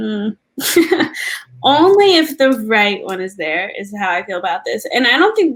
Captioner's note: laugh